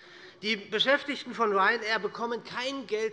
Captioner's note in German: none